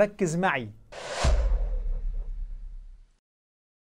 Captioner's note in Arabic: مُؤَثِّرَات صَوْتِيَّة